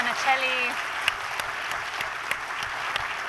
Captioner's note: applause